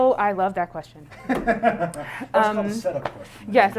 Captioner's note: laughs